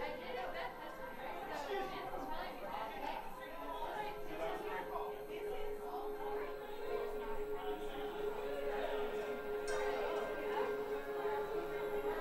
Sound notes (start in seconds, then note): 0.7 people chatter; 7.9 eerie noises